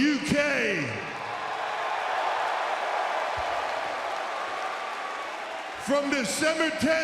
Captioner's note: crowd cheering